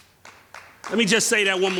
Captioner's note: crowd clapping